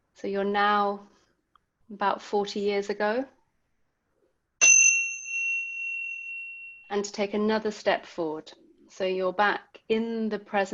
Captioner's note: bell sound